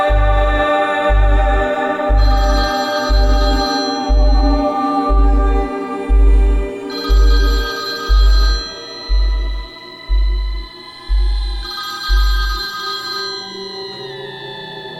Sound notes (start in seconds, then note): 2.2 telephone ringing